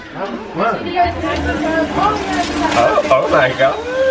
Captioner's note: machine whirs; water sloshing